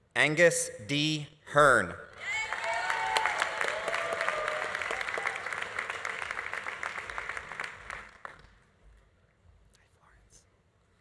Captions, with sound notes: - Angus D. Hirn. (audience applauding) (audience cheering) Hi Florence.